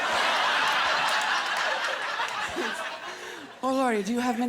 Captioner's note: laughter